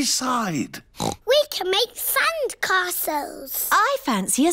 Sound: oinks

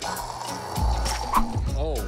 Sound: imitating rocket engine

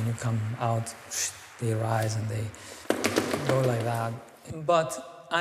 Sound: stamps feet

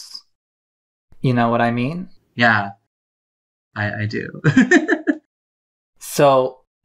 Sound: laughs

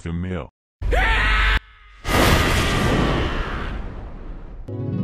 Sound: jin roars in sheer anger

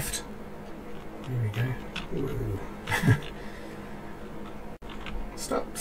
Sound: laughs

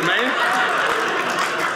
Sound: audience laughing

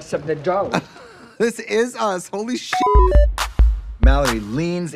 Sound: beep

